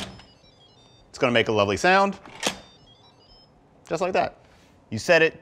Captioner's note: beeps